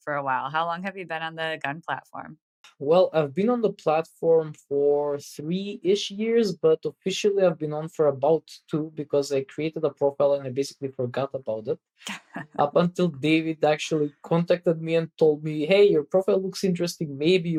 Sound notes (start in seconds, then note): 12.6 <Laugh>